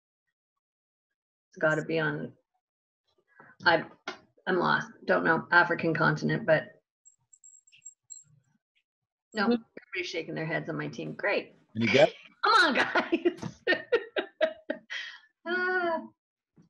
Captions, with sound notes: It's gotta be on, I'm lost, don't know African continent but, - Every shaking their heads on my team, great! - Come on guys! (laughing)